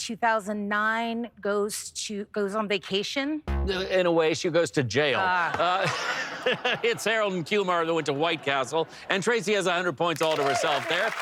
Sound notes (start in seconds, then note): 3.4 bass note; 5.2 laughter